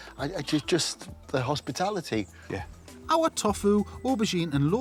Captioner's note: stutters